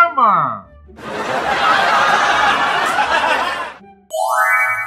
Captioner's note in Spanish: Risas